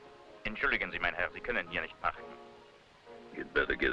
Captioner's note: officer speaking foreign language